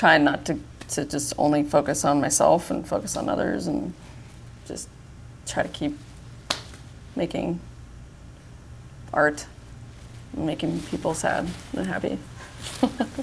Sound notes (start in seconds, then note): 6.4 loud slap; 12.6 both chuckle